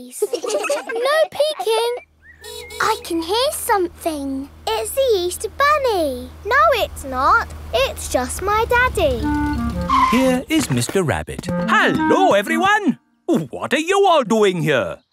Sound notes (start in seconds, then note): 0.1 giggling; 2.4 car horn honking; 8.6 vehicle approaching